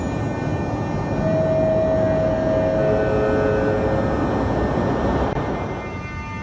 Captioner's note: arrival of train at the station